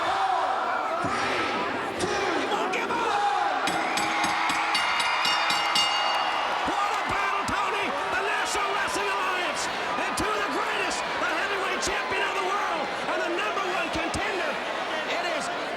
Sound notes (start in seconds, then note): 3.6 bell chiming; 3.7 crowd cheering